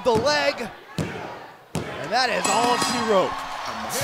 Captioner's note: crowd chatter